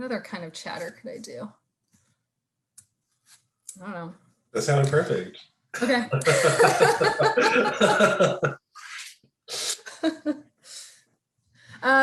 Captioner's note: both laughing